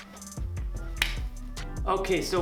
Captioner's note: claps